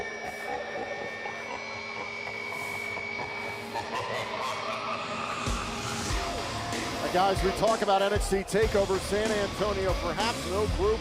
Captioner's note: evil laughter